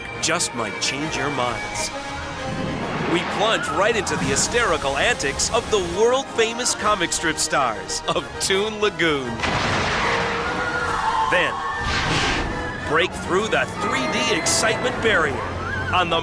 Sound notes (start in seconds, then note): 10.0 ride whooshing; 10.4 riders screaming